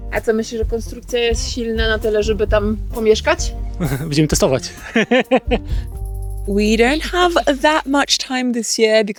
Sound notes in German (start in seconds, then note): 0.1 spricht in einer Fremdsprache; 3.8 lacht